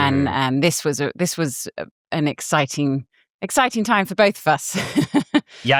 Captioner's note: laughs